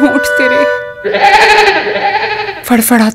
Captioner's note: Braying